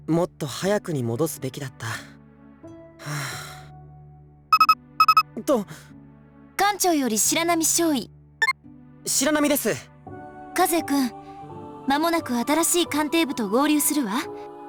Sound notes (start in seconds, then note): 3.0 sigh